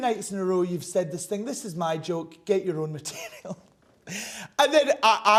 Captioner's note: laughs